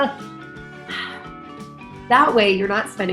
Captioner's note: sighs